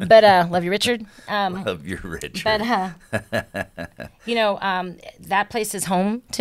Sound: laughs

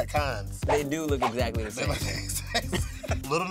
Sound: laughing

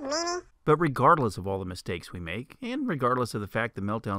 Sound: man's voice

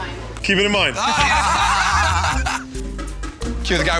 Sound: laughter

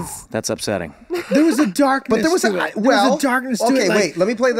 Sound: Meg laughing

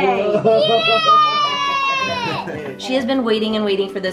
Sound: cheers

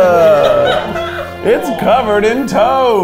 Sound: crew laughs

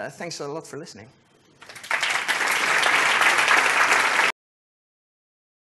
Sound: applause

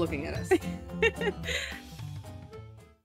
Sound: laughs

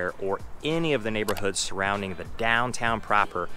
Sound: button clicking

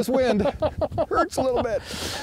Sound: laughs

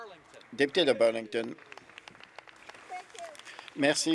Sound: applause

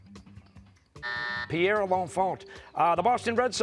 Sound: buzzer

